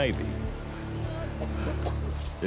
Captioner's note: man wailing and coughing